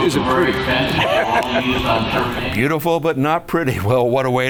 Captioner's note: laughs